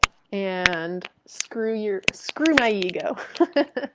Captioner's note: chuckles